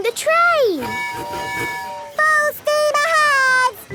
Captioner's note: tooting